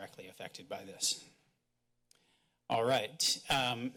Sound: pause

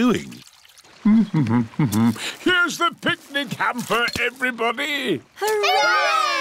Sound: hums

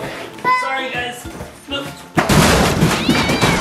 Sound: luggage bangs down stairs; cat yowling

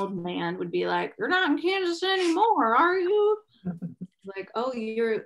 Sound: chuckles; chuckles

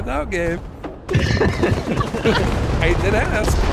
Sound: everyone laughing

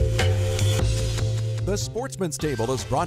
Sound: voiceover

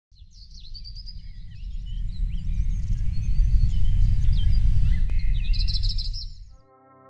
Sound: birds singing

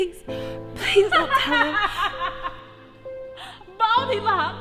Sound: Tasha laughs

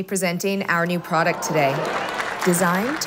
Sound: applause

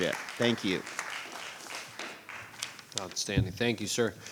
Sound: clapping

